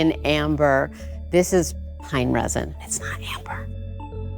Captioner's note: whispered